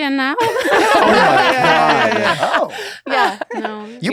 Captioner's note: laughter